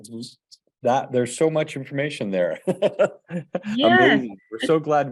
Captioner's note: chuckles